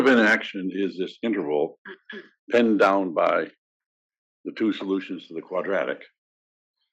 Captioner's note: cough